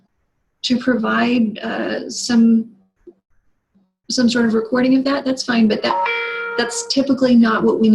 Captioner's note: computer dings